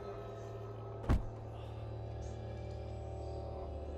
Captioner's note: thuds